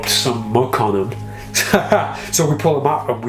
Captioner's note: laughs